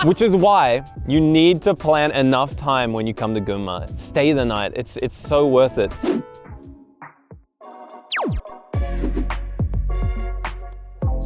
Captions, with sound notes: Which is why you need to plan enough time when you come to Gunma. Stay the night, it's so worth it. (scene whooshes) (laser zaps) (relaxing music continues)